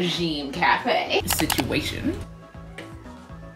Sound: scene shift with "situation" audio and double click

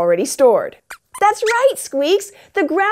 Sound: squeaks squeaks

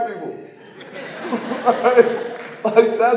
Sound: audience laughing

